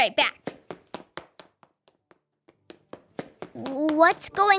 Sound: footsteps thudding

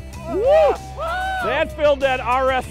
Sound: all exclaiming

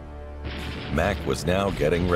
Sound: machine gun cracking

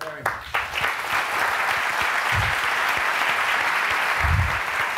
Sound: applause

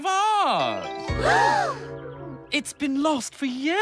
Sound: all Gasp

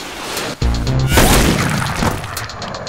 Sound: gunshot

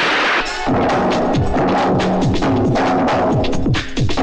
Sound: none

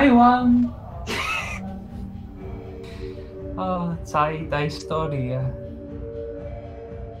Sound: he laughs

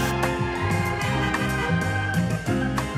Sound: static hisses; car horns honking; bright jazzy music

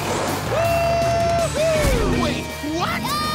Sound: cheering

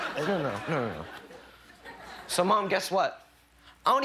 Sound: laughter

